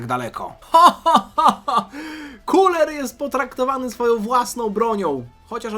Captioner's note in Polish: śmiech